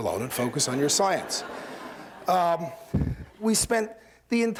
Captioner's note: laughter